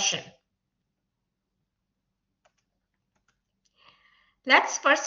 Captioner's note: silence